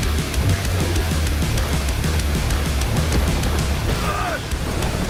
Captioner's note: grunts